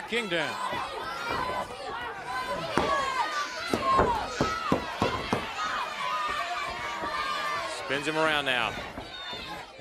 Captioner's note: crowd chatter